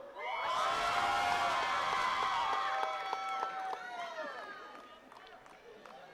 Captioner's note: attendees cheering and clapping